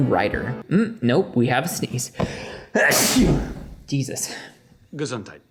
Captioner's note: proceeds to sneeze